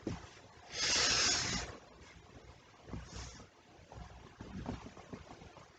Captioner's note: deep breathes